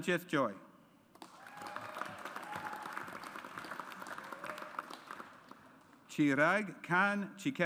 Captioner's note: audience applauds